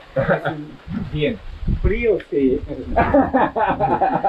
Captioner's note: speaking in foreign language; laughs